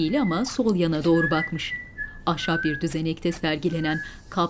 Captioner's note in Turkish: Islık sesi